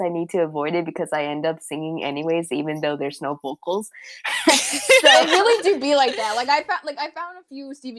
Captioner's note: laughter